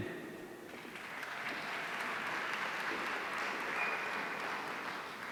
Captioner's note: audience applauding